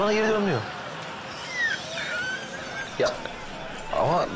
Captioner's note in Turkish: Gülme sesi